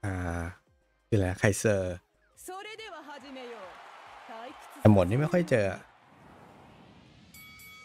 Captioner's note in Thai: ปรบมือ